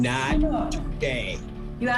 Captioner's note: muttering